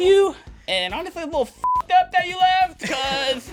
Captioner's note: beep